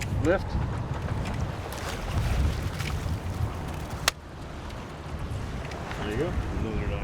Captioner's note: fish splashing